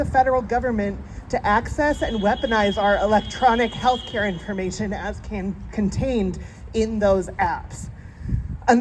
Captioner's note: honking